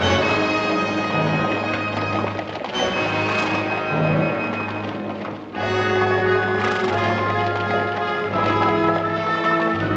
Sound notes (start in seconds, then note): 2.2 horses trotting and huffing